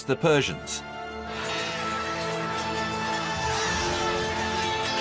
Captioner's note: sounds of battle